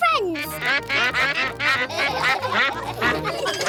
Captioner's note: quacks; all quack; laughter